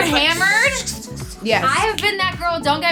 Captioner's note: sprinkling water mouth effects